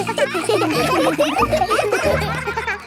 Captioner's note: children laughing